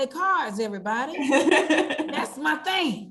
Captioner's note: laughter